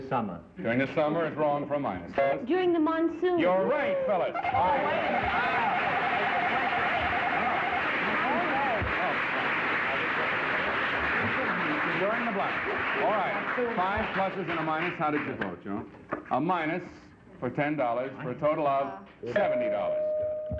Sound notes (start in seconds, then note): 5.4 applause; 9.9 indistinct chatter